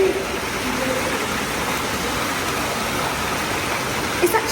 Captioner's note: water rushes